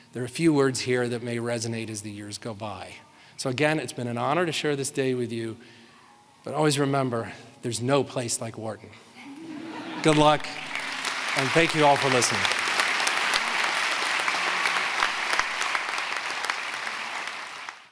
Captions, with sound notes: there are a few words here that may resonate as the years go by. So again, it's been an honor to share this day with you, but always remember, there's no place like Wharton. Good luck and thank you all for listening. (audience applauding)